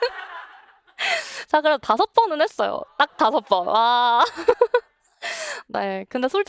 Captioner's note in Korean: 웃음; 웃음